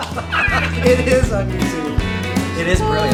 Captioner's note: laughs